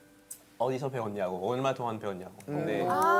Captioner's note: French